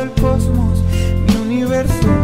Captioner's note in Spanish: Respira epicamente